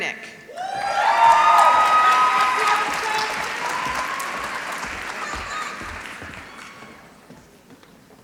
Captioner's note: applause